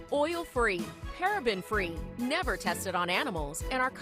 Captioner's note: none